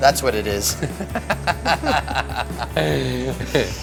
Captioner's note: laughing